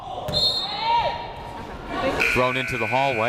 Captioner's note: whistle blows